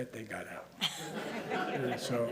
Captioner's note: laughter